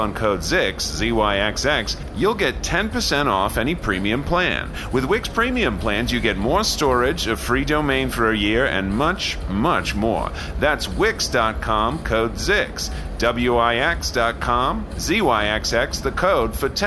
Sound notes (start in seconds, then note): none